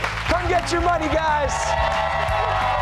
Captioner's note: cheers and applause